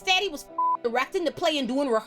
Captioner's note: beep